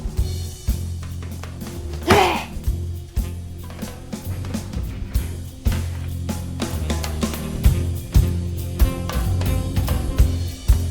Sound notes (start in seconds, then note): 2.0 exasperatedly exhales; 2.6 gentle soulful music